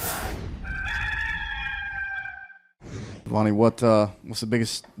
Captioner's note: rooster sound